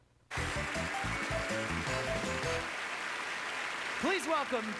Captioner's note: applause